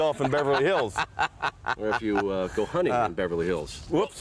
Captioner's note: laugh